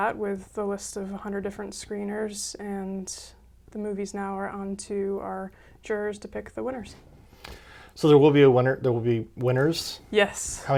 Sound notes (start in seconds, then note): none